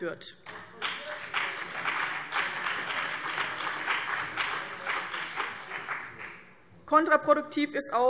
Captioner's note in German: Beifall BÜNDNIS 90/DIE GRÜNEN